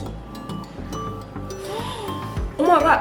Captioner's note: mouth kind of full